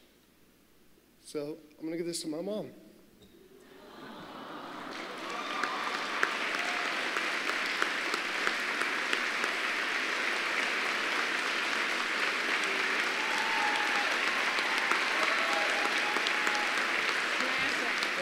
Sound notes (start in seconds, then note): 14.5 applause